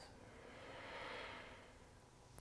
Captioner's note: exhaling